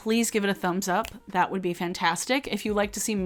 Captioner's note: snaps fingers